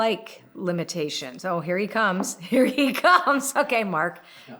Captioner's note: laughing